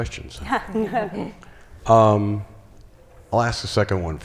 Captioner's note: chuckles